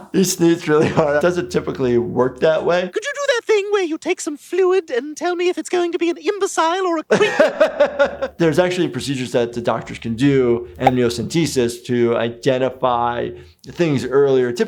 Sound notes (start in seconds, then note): 7.6 laughs